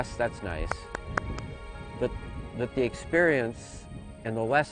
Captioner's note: claps